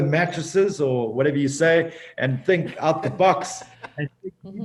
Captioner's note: hosts chuckling